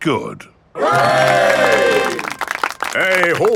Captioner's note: clapping